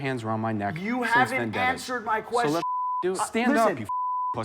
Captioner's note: beep